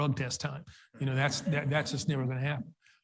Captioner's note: audience laughs